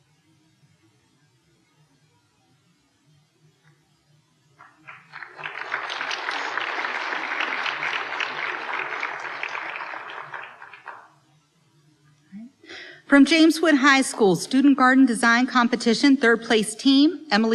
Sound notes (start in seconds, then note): 4.6 applause